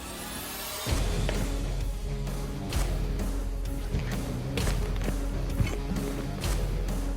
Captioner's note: blade impact sounds